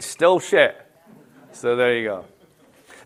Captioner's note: laughter